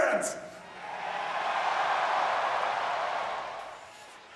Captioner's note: crowd cheering